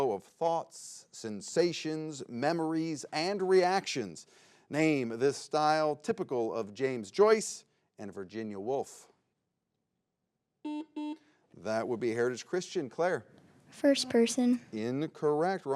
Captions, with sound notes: of thoughts, sensations, memories and reactions. Name this style typical, of James Joyce and Virginia Wolf. (button blips) That would be Heritage Christian. Claire? - First-person. - Incorrect.